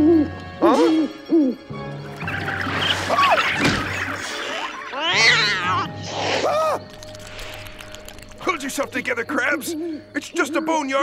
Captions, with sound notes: Huh? [hooting] [gasping] [screeching, hissing] [shrieking] Hold yourself together, Krabs. It's just a boneyard...